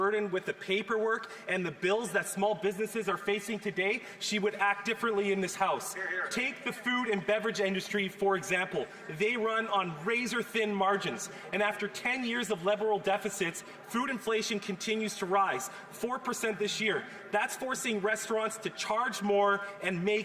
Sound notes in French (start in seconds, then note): 2.6 voix de l'interprète